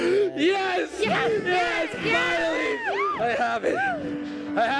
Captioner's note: cheering